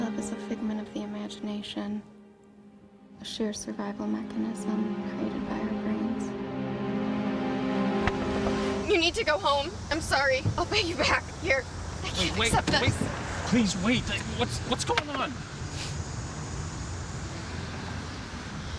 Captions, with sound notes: - Love is a figment of the imagination, a sheer survival mechanism created by our brains. (car door knocks) - You need to go home, I'm sorry. I'll pay you back, here. I can't accept this. - Wait, wait, please wait. What... what's going on?